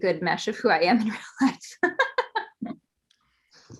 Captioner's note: laughs